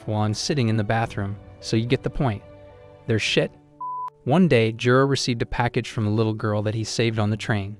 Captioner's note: beep